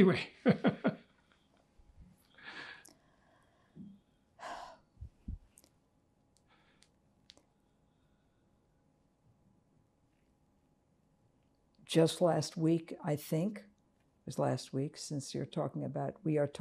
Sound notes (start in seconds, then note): 0.2 laughing; 4.4 sighing